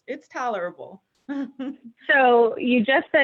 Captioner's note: chuckles